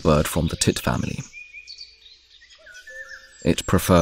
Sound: sounds of nature

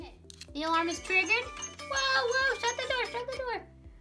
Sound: door opens

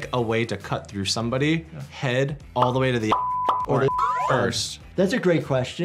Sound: beep

